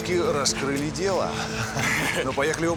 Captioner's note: chuckles